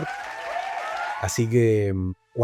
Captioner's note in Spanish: Aplausos